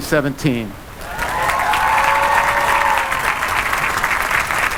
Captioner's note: applause